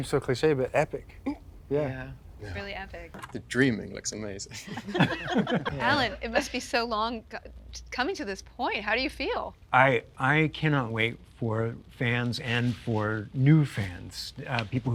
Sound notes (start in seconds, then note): 4.5 people laughing